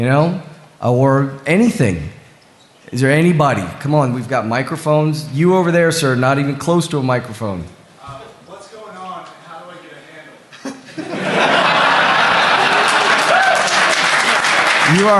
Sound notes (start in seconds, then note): 10.5 laughter; 12.3 applause